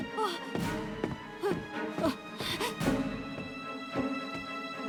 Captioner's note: Freddie breathing heavy